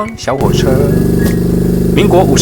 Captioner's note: cart engine sound